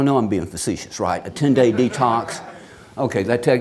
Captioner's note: audience laughs